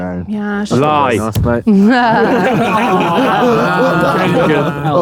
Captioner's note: group laughs